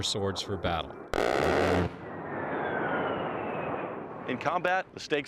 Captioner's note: planes roaring; roaring gunfire